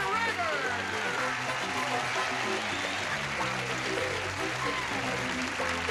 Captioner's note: applause